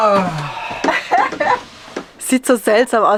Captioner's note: laughter